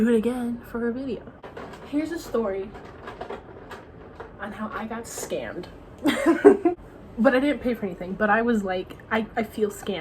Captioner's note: laugh